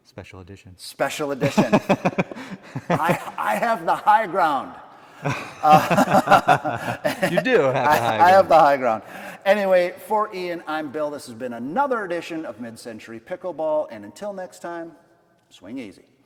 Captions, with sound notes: Special edition. Special edition. (laughing) I have the high ground. (laughing) You do have the high ground. I have the high ground. Anyway, for Ian, I'm Bill. This has been another edition of Mid-century Pickleball. And until next time, swing easy.